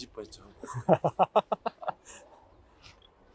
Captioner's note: ha ha ha